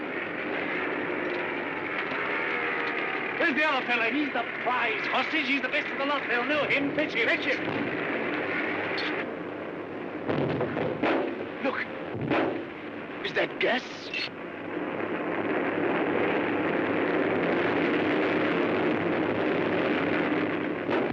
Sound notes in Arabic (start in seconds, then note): 0.1 هدير الطائرة; 8.0 ضوضاء الطائرات; 10.3 انفجار ناعم; 20.8 فرقعة عالية